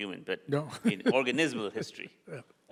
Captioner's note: chuckles